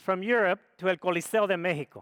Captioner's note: speaks foreign language